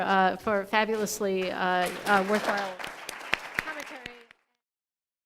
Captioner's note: audience applauds